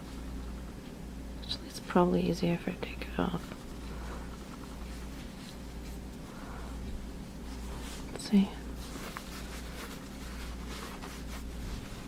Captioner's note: whispers